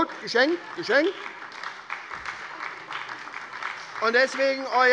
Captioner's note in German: Heiterkeit und Beifall bei der SPD